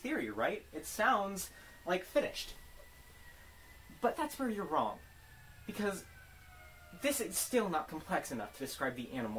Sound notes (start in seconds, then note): 4.2 symbolic sirens